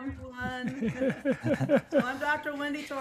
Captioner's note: panelists laughing